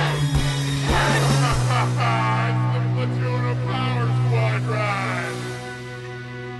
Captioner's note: laughing